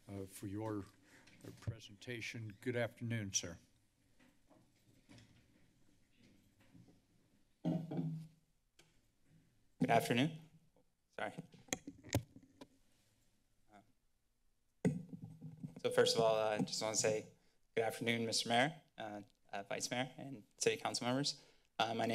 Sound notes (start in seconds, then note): 3.8 silence; 7.6 hitting on table; 8.4 silence; 12.7 silence; 14.8 taps microphone